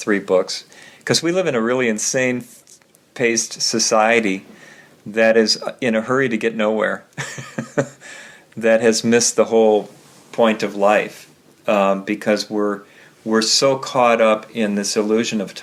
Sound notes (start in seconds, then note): 7.2 laughing